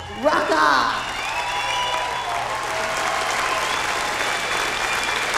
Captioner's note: cheering, applause